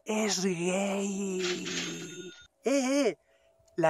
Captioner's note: money sounds